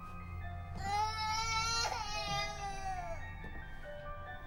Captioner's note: none